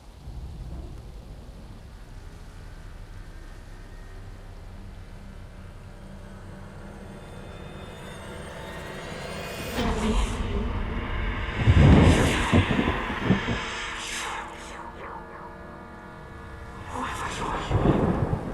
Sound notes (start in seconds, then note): 5.3 soft suspenseful music; 10.0 faint whispering